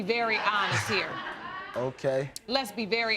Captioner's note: audience laughing